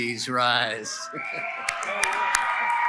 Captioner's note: applause & Cheering